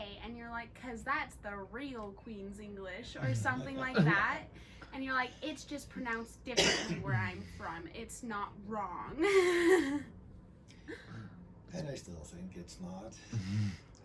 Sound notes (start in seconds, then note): 4.1 all laugh; 9.2 laughs